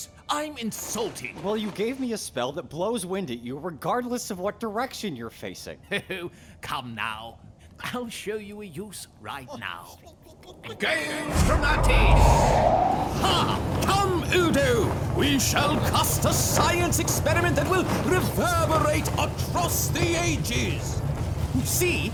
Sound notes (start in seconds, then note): 6.8 Magusly chuckle